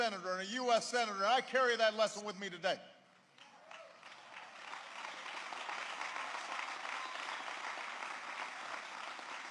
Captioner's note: applause